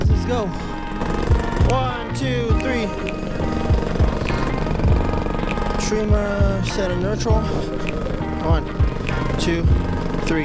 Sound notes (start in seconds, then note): 0.0 motor revving; 3.9 motor revving